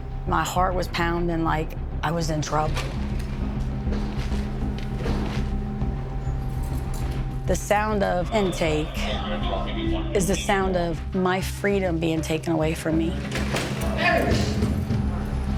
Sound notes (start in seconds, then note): 8.2 police radio; 14.0 shouting